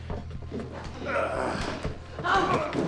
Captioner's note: Kreugher grunts